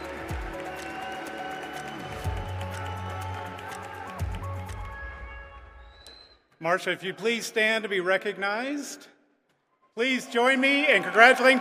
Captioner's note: applause